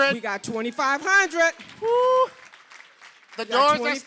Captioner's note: applause